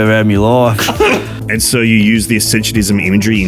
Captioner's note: laughing